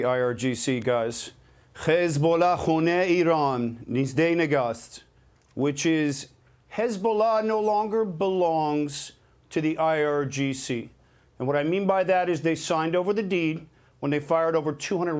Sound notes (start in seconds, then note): 7.4 speaking in hebrew